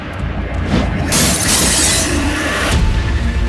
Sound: breaking Car Glasses

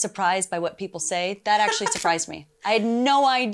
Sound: laughs

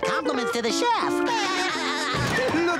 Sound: laughing

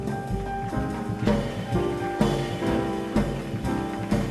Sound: audience applauding

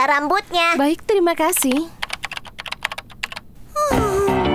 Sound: typing; sighing

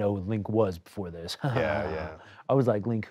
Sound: laughs

